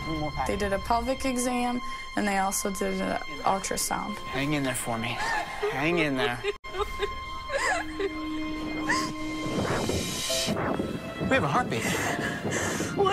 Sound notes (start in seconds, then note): 7.4 sobs loudly; 9.1 heartbeat whooshing